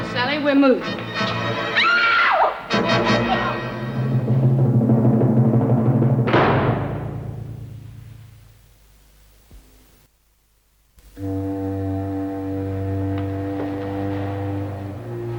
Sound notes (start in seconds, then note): 4.6 gate slam